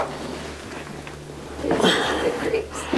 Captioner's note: Charlie groans